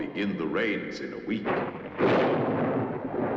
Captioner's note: thunderclap